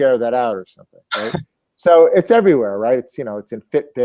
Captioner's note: laugh